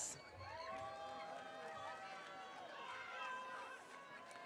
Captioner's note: audience cheering